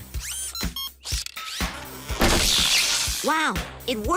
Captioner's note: beeps and whirs